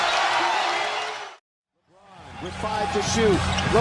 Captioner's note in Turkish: coşkulu tezahürat